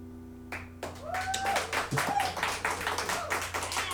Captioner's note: cheers and applause